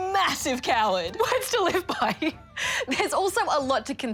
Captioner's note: laughs